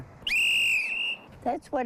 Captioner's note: whistle blowing